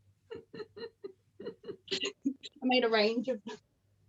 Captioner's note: both laugh